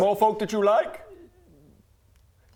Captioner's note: diplomatic silence